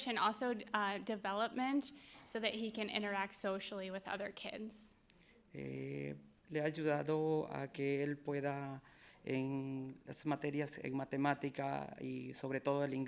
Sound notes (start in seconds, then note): 5.8 speaking in foreign language